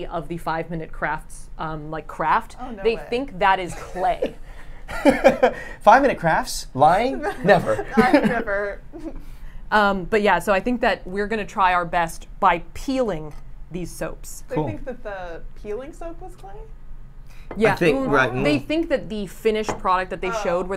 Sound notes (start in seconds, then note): 4.9 laughs; 7.2 laughs; 7.2 chuckles